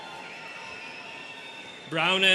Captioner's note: students cheering